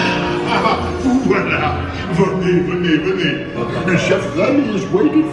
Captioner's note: character speaking in foreign language